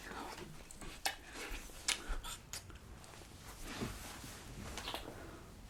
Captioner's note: kisses